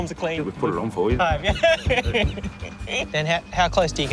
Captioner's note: laughs